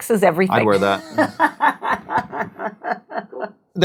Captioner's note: laughs